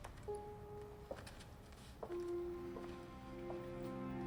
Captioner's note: shoes clacking